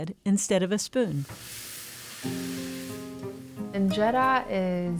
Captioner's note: griddle sizzles